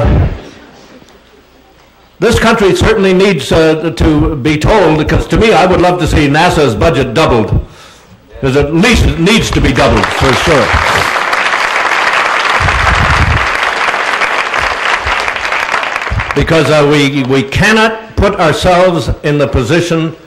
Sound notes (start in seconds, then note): 9.4 applause